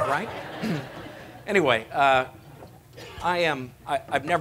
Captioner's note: laughter